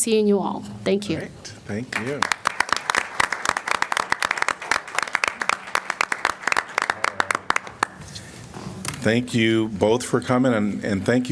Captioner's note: applause